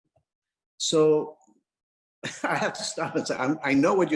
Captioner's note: laughs